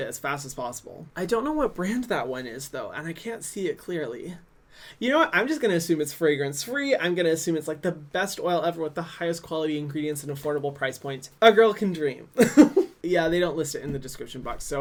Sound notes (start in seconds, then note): 12.4 laughs